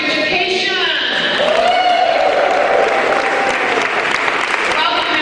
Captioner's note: cheering